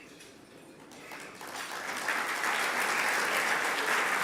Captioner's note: applause